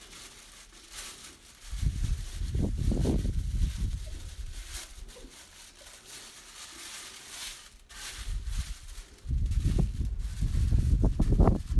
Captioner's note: crinkle of tissue paper